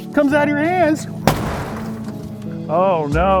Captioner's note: hits the garage door with a large mallet